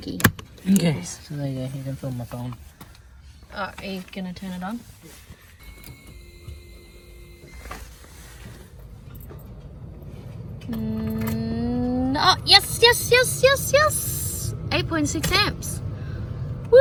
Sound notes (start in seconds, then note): 5.6 car whirrs and beeps